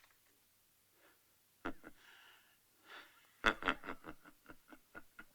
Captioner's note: chuckling